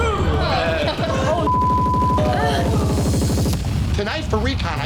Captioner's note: beep